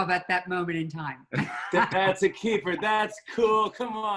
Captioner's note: laughs